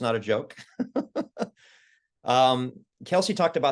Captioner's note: laugh